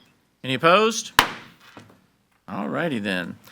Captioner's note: gavel bangs